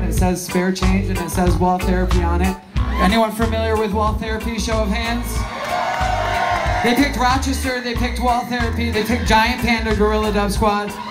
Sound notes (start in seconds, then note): 5.1 crowd Cheering